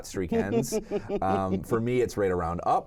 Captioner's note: laughs